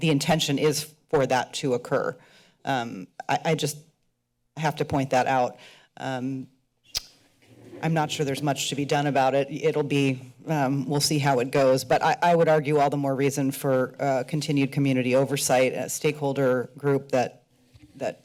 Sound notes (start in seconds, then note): 6.9 clicks tongue